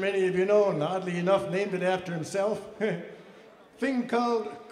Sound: laughs

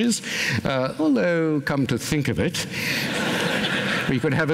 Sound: laughter

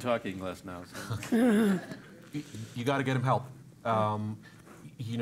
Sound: laugh

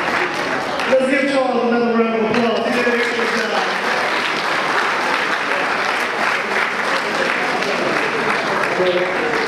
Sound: audience applause

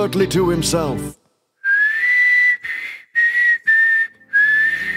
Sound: silence… then bad whistling

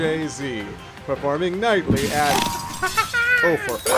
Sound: window smash

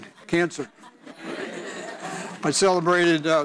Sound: audience laughs

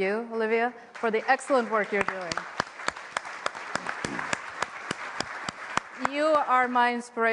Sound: applause

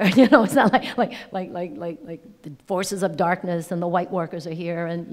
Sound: laughing

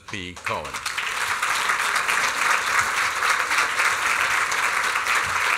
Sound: applause

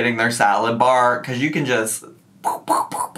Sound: making quick sound effects

